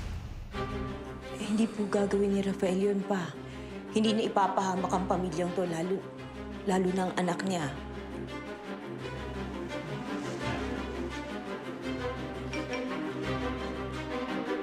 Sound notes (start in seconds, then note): 8.3 stirring music playing; 12.5 phone chimes